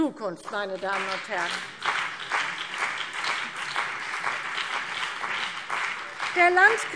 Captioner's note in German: Beifall CDU und BÜNDNIS 90/DIE GRÜNEN